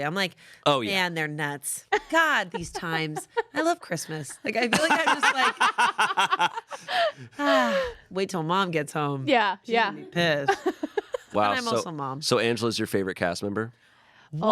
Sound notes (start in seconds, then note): 4.6 everyone laughs; 6.7 sighs